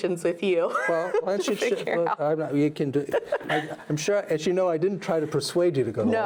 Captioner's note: laughing